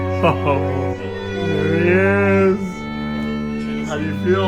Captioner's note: risas